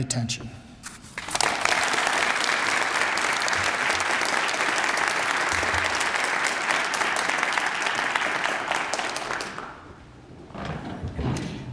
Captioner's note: applause